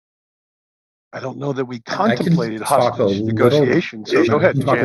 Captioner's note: all chattering